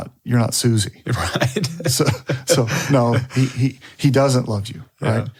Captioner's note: laughs